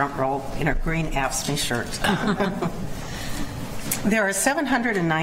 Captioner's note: chuckling